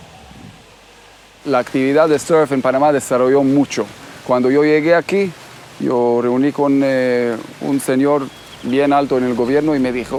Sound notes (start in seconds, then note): 1.7 speaking Spanish